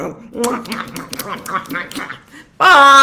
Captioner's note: blowing kisses